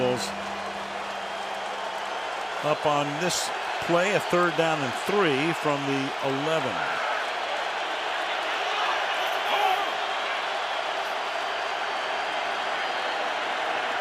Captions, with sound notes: See what he calls up on this play. A third down and 3 from the 11. [cheering]